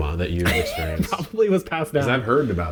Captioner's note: laughs